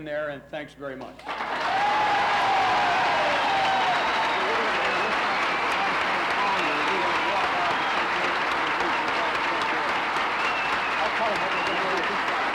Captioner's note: applauses